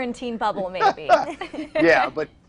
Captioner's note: laughter